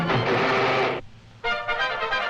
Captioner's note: metal creaks; triumphant music